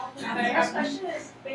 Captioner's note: laughing